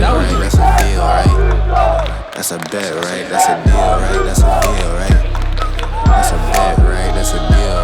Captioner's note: Crowd cheering for Glutonny